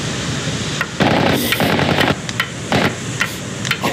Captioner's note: hammering